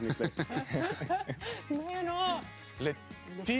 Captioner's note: laughing